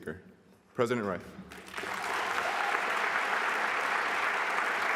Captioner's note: applause